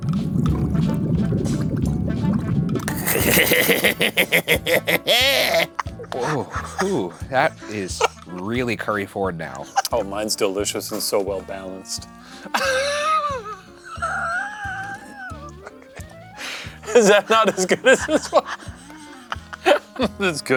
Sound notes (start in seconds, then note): 0.1 spooky bubbling music; 2.9 cackling; 12.6 wheezing; 14.9 bright bouncy music